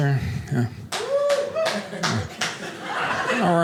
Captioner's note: man claps and cheers